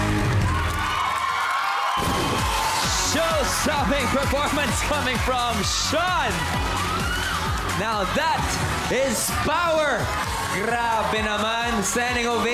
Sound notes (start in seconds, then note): 1.0 audience cheering, applauding; 7.1 theme music playing